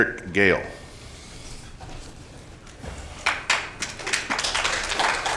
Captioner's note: applause